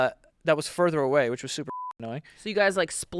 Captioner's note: beep